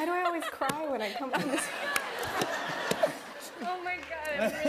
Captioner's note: laughter